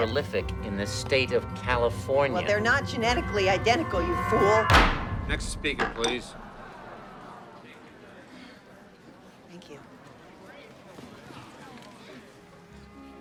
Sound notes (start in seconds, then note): 4.6 gavel bangs; 6.4 crowding grumbling